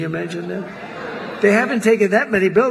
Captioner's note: laughter